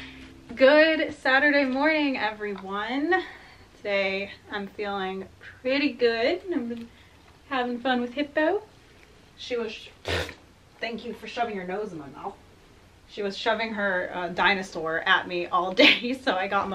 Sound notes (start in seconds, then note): 10.0 pfft